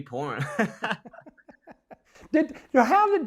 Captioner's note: both laughing